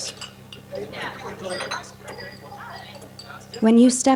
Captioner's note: silverware clanking; various chattering